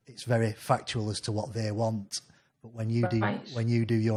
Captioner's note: none